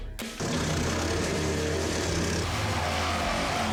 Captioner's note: sawing